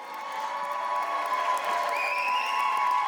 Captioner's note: audience cheers